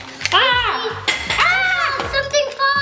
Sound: toy clatters

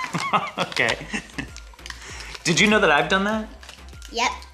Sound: laughs

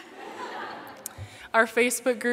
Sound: laughter

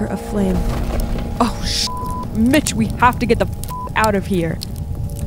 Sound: beep

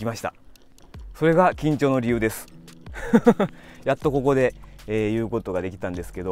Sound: laughs

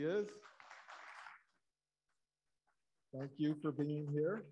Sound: audience applauding

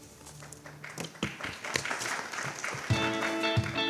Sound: applause

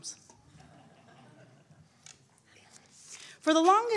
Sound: audience chuckling

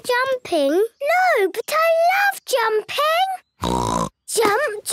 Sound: snort

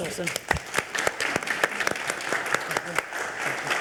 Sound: audience applauds

